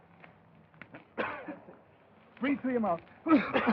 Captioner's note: coughing; coughs